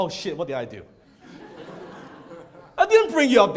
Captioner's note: audience laughs